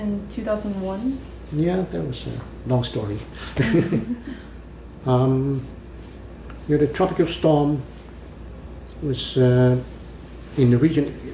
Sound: laughs

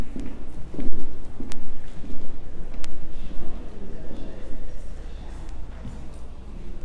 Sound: footsteps, muffled background conversation

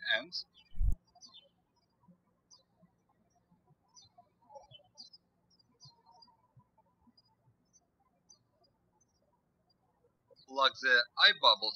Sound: birds chirping

